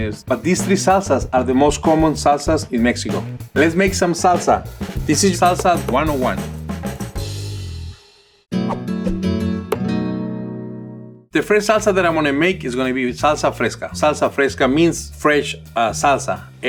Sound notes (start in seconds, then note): 6.5 gentle upbeat music; 8.5 graphics whooshing; 8.6 gentle guitar music